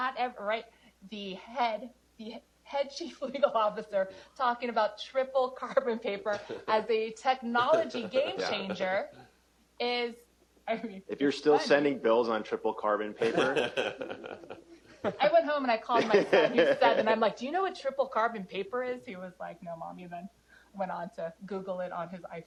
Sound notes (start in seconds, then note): 13.7 chuckle